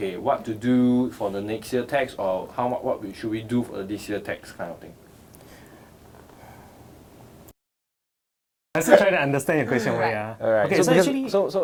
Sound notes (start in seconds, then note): 5.5 silence